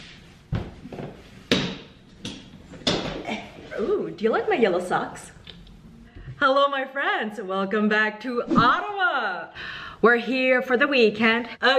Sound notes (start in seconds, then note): 1.2 metal tapping